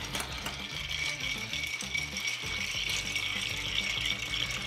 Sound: ice clinking

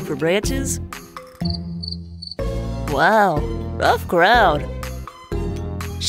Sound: crickets chirping

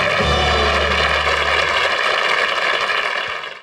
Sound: audience applauding

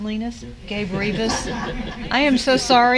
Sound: laugh

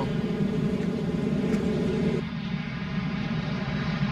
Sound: engine rumbles

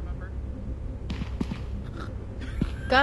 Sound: foot steps and laughter

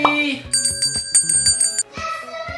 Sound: bell ringing

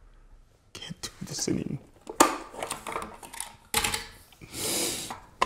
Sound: latch clicks

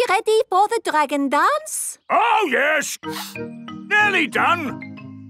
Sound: sniffing

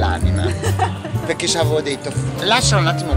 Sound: laughing

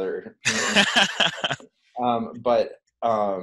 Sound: laughs

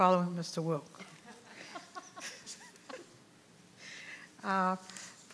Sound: members laugh

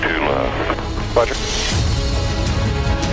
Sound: radio: Roger

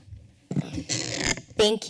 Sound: creaking sound

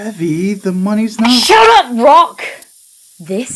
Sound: screams

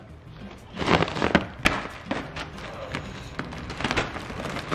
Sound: plastic rustling

